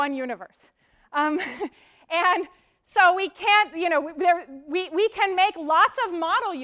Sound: laugh

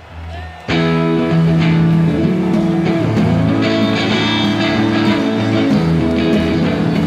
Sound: audience claps; upbeat hard rock music

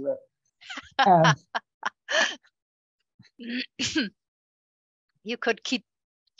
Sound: laughing

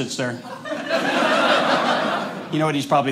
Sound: audience laughing

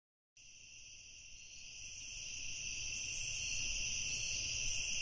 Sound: crickets chirping

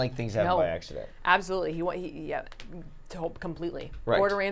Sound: stammering

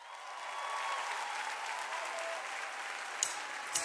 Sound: Gritos y aplausos

